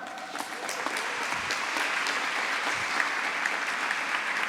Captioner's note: applause